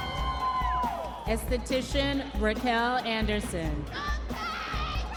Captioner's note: audience members cheering; audience members cheering